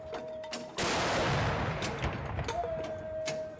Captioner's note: gunshots